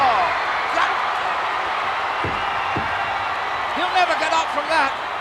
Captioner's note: applause